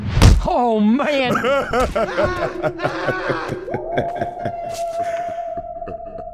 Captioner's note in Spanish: Coach se ríe; grita